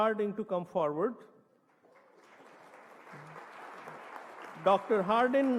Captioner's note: applause